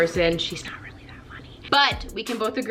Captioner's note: whispers